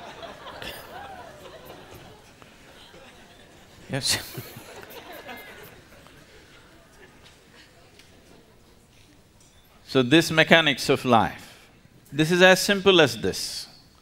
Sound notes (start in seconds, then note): 2.6 laughs; 5.7 laughter